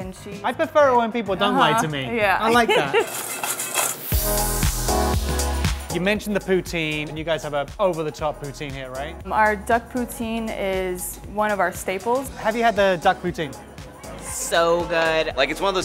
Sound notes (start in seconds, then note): 2.3 rattling; 2.3 upbeat music